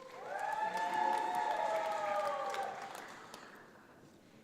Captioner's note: audience applauds